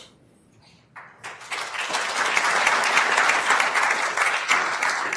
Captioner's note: attendees applauding